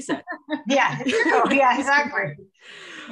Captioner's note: laughing